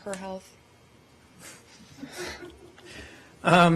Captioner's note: laughter